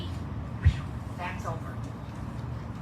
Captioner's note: imitates "wooshing" noise